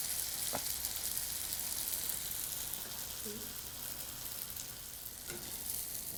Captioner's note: sizzling sounds